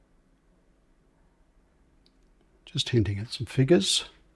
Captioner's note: silence